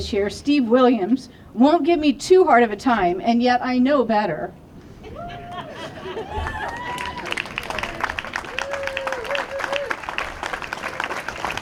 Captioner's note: laughter and applause